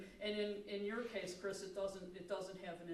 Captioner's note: none